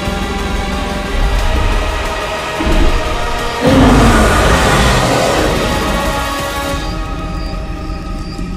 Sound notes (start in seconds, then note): 1.0 stomping and Growl Sounds